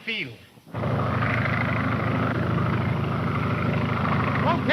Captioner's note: plane engine rumbling